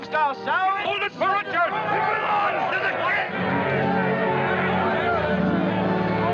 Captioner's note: Shouts of "Hold it for Richard!" "It belongs to the king!" etc